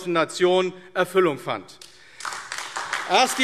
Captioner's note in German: Beifall AfD